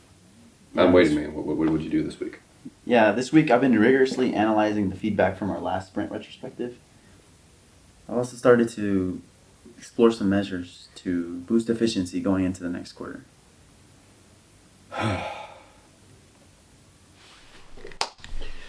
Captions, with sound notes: I'm waiting, man. What did you do this week? Yeah, this week I've been rigorously analyzing the feedback from our last sprint retrospective. I also started to explore some measures to boost efficiency going into the next quarter. [sighs]